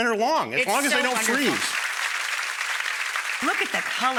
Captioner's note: audience applause